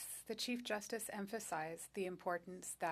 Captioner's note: speaking French